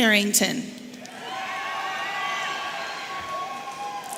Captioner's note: audience cheering